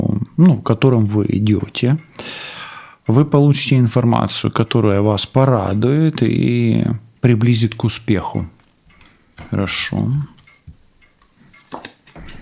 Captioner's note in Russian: вздыхает